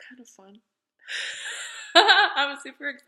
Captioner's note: laughing